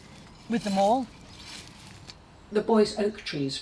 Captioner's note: spade scraping